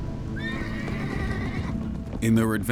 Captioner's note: horse whinnying